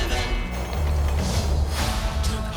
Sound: train car screeches

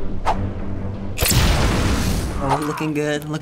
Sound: dramatic music; explosion

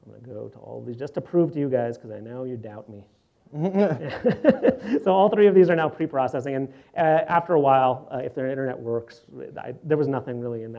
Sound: laughs

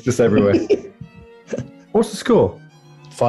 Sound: laughing

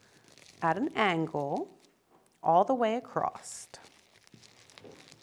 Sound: paper crinkling

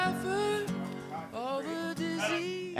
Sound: indistinct chatter

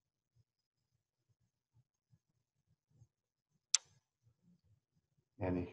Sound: silence

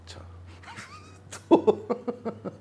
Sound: laughing

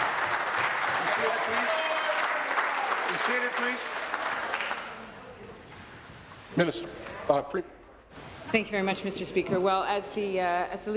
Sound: applause

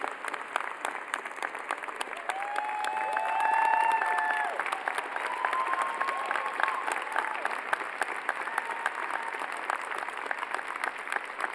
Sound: cheers and applause

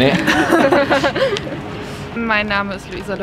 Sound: laugh

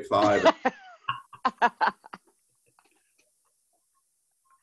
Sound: laughing

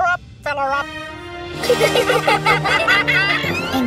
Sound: laughing

